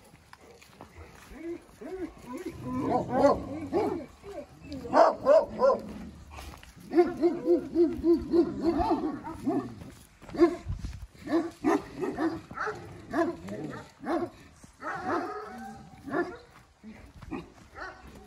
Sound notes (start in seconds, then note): 2.5 barks